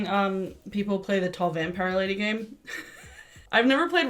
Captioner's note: laughs